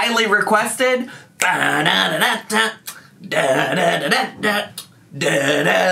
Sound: vocalizing

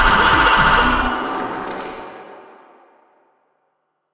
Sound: braap reverb; shitting music continues

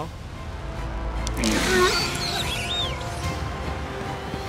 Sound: Demogorgon screeching; intense dramatic music

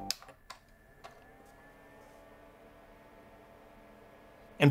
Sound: AC fan revs

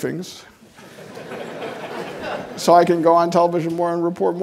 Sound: audience laughing

